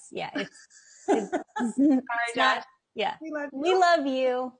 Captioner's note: chuckles